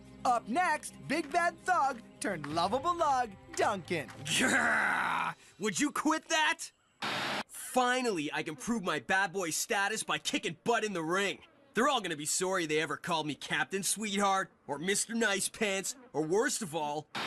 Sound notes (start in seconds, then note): 4.3 Duncan Growling